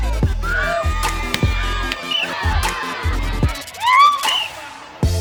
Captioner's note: cheering